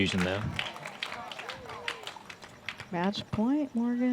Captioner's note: applause